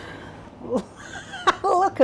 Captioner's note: laugh